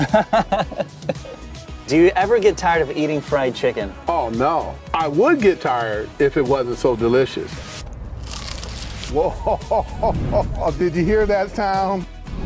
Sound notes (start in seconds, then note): 0.0 laughs; 8.1 chicken crunching